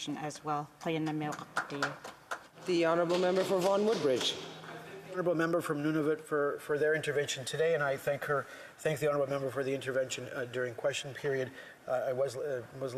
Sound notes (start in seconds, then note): 8.2 speaking Indigenous Language